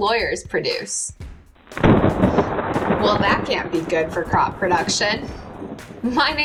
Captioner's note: thunder sounds